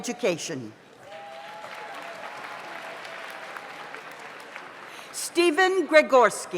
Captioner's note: audience applauds